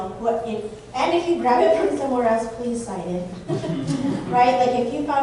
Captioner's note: laughter